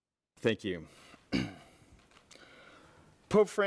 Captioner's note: clears throat